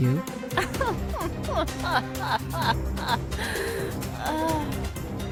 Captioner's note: laughs